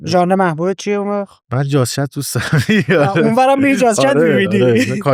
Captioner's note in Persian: خنده